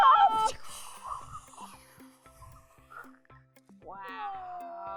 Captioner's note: make blasting noises